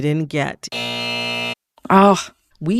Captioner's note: soundbite of buzzer